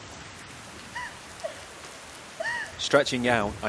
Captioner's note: woman crying